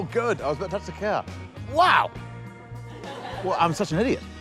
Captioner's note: laughter